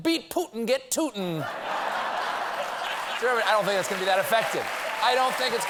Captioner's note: applause